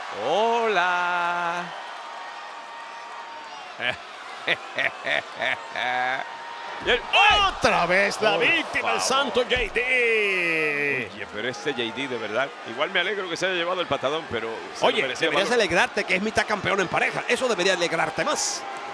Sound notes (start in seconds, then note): 4.4 laugh